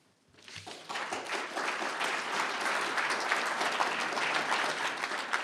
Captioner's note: applause